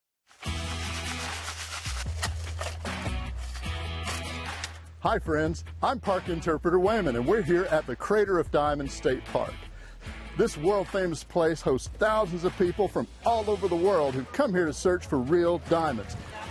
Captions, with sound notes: (rock music) (rocks shaking) - Hi friends, I'm Park Interpreter Waymon, and we're here at the Crater of Diamonds State Park. This world-famous place hosts thousands of people from all over the world who come here to search for real diamonds,